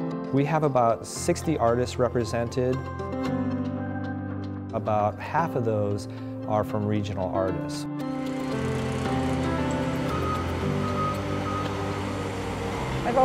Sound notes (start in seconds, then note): 8.2 drills whirring; 10.0 construction vehicles beeping